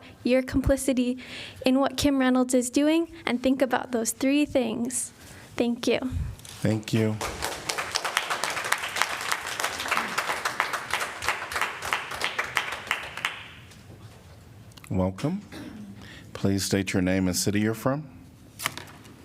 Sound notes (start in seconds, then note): 10.4 applause